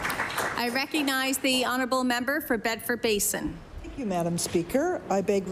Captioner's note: applause